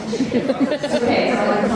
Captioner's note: audience laughter